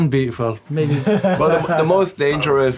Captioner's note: laughing